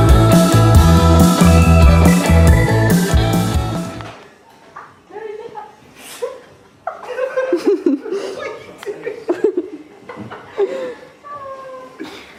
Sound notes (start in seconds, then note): 0.0 upbeat guitar music; 4.7 laughing